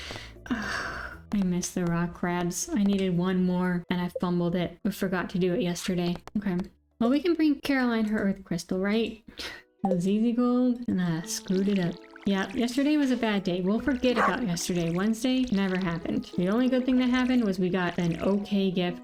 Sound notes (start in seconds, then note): 0.4 sigh; 9.7 sigh